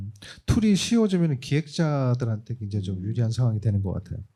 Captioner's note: speaking korean